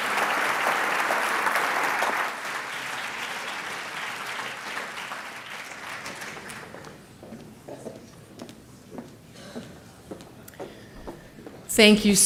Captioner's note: applause